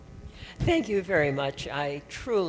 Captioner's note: voiceover